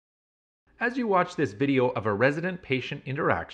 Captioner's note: voiceover